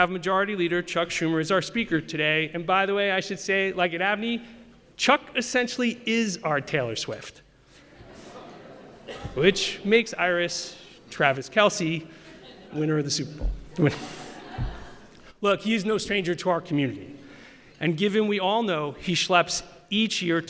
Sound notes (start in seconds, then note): 7.8 laughter